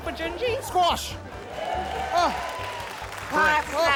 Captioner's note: cheering, applause